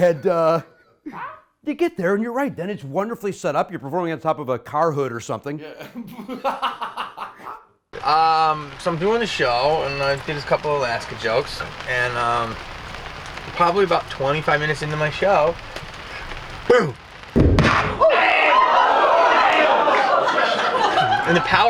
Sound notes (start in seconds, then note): 5.7 laughing; 17.3 booming; 17.6 all exclaiming